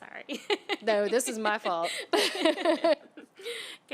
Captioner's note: chuckles; laughter